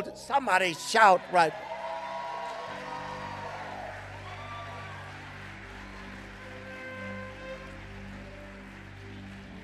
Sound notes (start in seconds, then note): 1.8 congregation cheering; 6.2 trumpet blowing; 9.4 gentle upbeat music